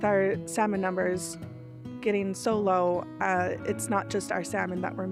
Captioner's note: speaking Indigenous language